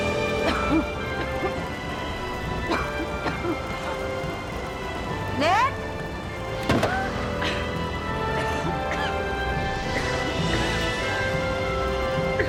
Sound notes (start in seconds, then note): 0.4 Lisa coughing; 7.2 dramatic orchestral music continues